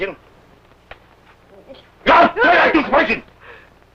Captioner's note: foreign language